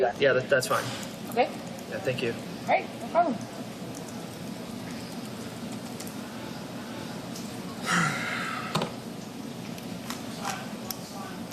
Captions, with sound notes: - Yeah, that's fine. - Okay? - Yeah, thank you. - No problem. (sighs)